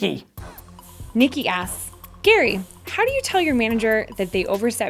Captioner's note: voiceover